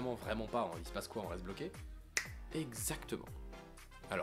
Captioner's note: snap